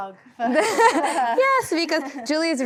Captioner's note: all laughing